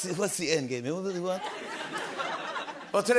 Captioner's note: laughter